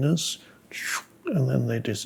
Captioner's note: makes the sound of something moving